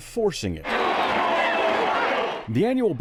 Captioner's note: crowd clamoring